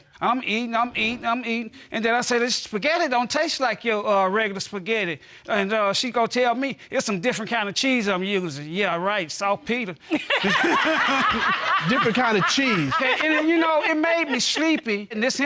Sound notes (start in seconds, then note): 10.2 all laughing